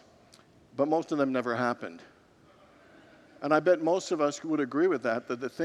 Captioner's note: congregants murmur